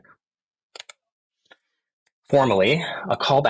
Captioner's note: mouse button clicks